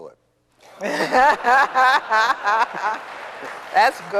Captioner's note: audience laughing